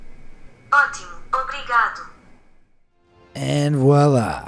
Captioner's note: translator device speaking in foreign language